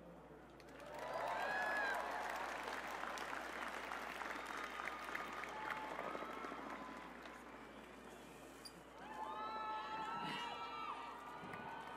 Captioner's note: cheers and applause